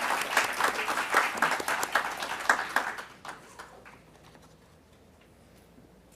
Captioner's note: applause